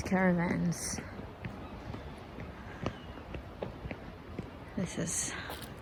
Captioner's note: feet can be heard slapping the ground